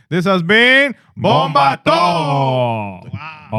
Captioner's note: non-english Speech